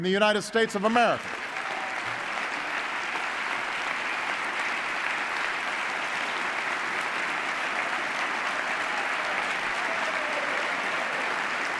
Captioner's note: applause